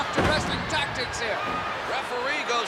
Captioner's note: crowd clamoring; body thudding